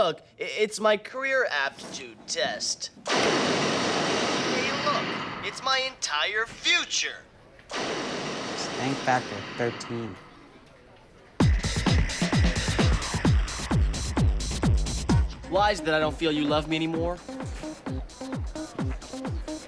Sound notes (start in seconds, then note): 3.1 flame thrower noises; 7.7 flame thrower noises; 11.4 funky dance music